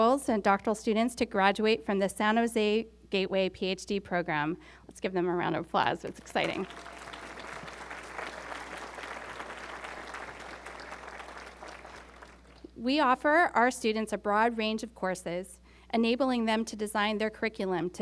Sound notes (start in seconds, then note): 6.0 applause